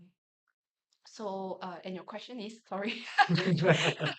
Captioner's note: everyone laughs